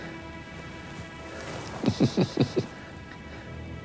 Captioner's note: chuckling